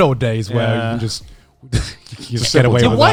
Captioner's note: chuckles